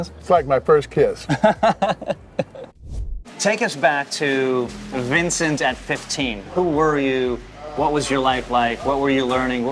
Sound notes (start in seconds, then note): 1.2 laughing